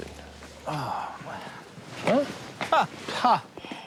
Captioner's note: scoffs; sighs